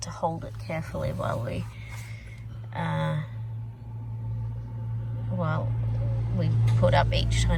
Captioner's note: car goes past